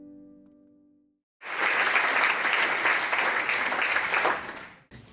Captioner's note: applause